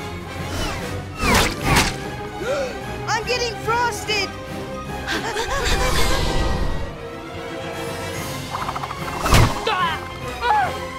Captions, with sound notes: [gasps] I'm getting frosted! [panting] [grunting]